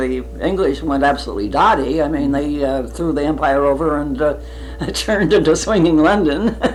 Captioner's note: laughs